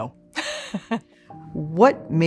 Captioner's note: laughs